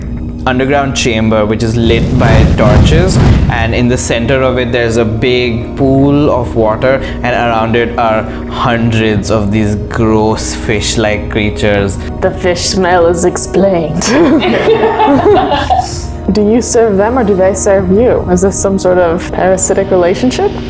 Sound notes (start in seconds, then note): 14.0 laughter